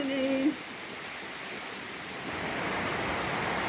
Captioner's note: loud rain